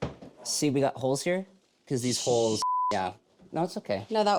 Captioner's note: beeps